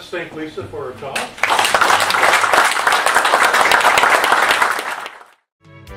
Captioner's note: applause